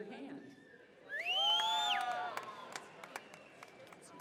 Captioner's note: cheers